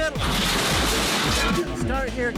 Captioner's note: chute gate crashing